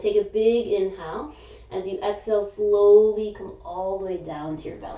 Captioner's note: inhaling